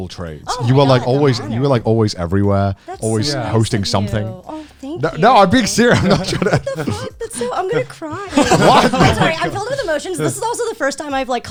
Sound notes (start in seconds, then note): 8.4 guys laughing